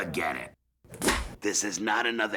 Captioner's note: clapperboard clap